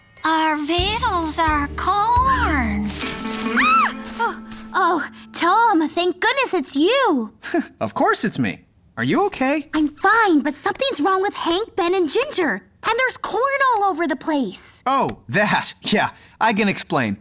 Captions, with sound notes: Our vittles are corn. [screams] Oh, Tom! Thank goodness it's you. -Of course it's me. Are you OK? -I'm fine. But something's wrong with Hank, Ben, and Ginger. And there's corn all over the place! Oh, that? Yeah, I can explain.